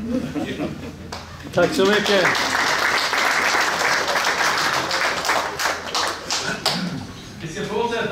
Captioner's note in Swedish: Applåder